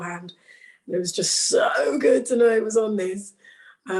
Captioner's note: none